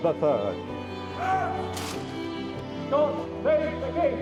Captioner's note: soldiers shouting